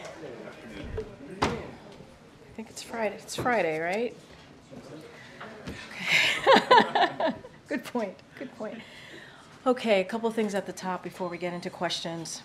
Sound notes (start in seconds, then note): 6.0 laughs